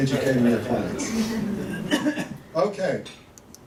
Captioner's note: laughter